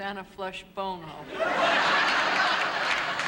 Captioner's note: laughter